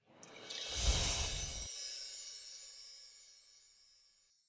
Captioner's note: chimes tinkle